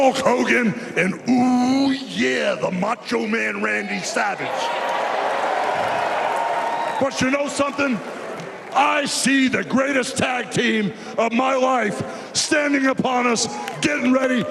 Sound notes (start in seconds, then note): 1.0 cheers and applause